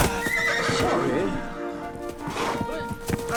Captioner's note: horse neighs